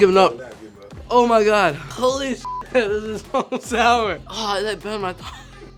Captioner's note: beep